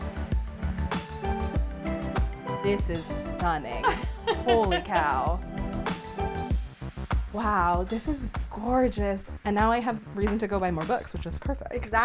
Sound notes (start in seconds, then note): 3.7 laughing